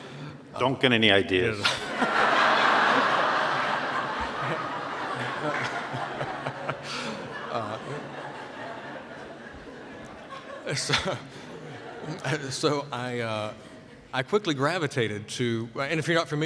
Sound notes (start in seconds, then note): 3.8 more laughter